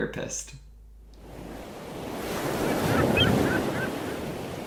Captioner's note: ocean sounds